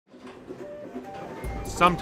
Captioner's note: MUSIC, TRAIN sounds